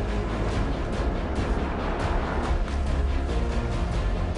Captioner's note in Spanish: Ruido del auto